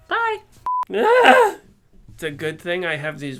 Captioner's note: shouting